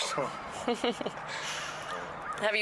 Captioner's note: laughter